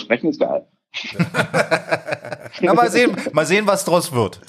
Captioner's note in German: Gelächter